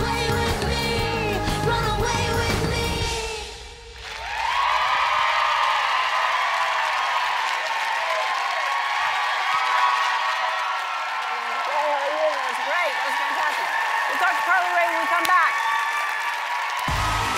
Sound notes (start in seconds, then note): 3.9 cheering